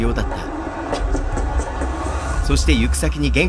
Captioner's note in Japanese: 走る足音：タタタタ...！